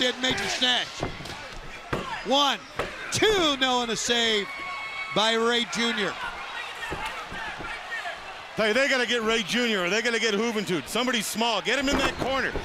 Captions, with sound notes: >> SNAPPED HIM DOWN DID MAJOR STASH. ONE, TWO--NO, AND A SAVE BY REY JUNIOR. >> [CROWD CHATTER] >> HEY, THEY GOT TO GET REY JUNIOR OR THEY GOT TO GET